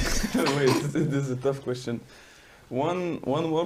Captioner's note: laughing